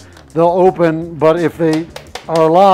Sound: taps shell

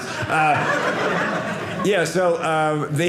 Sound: audience laughing

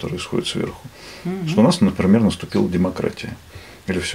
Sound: a signal

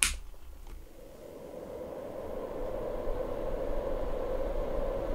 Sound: heater roaring

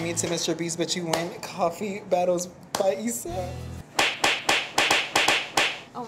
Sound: smacks

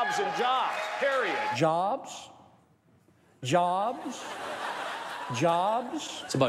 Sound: audience laughing

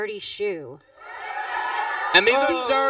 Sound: cheering, applause

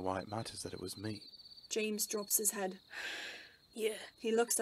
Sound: sighs

